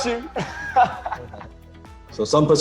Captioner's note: laughs